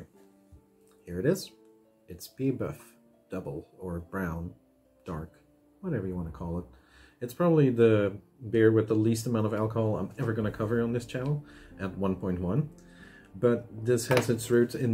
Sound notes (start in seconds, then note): none